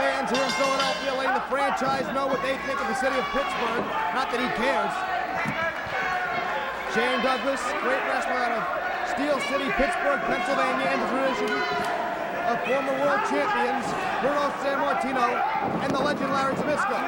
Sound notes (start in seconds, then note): 0.0 bell ringing; 5.8 crowd chatter